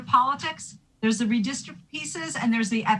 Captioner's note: audio distorting